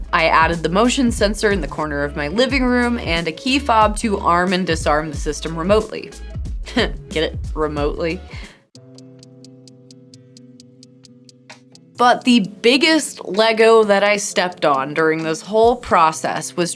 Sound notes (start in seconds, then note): 6.6 chuckles; 8.8 gentle music